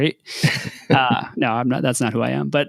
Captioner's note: laughing